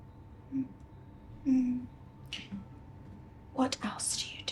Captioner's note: whispered